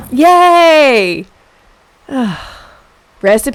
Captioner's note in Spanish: suspiro